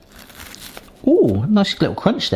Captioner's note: pastry crunches